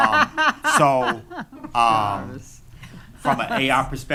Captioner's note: attendees laughing; laughing